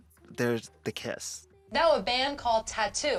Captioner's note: soundbite of archived recording